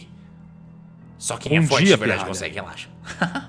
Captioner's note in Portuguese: Risada